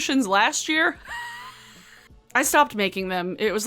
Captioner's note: laughs